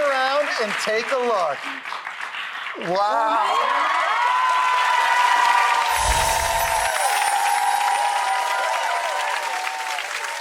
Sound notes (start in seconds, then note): 4.2 audience cheers and applauds